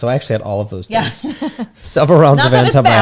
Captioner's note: laughs